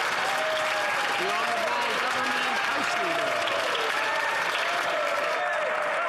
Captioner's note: some Applause